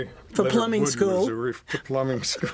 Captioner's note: laughter